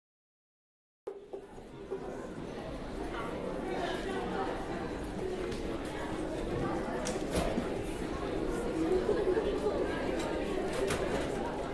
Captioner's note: highschool noises